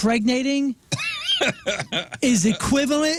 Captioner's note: laughing